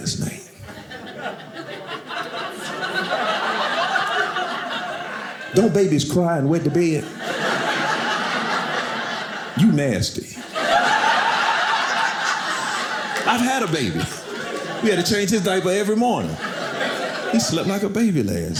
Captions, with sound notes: (audience laughing) Don't babies cry and wet the bed? (audience laughing) You nasty. (audience laughing) I've had a baby. We had to change his diaper every morning. He slept like a baby last night.